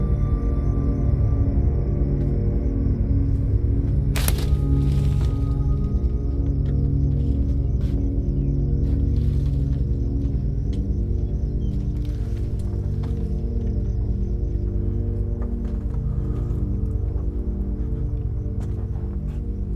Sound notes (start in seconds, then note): 4.1 police tape rustling; 7.1 gentle tense music